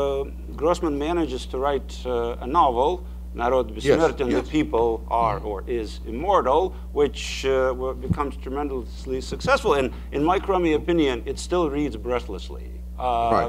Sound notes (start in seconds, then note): 3.4 speaking in foreign language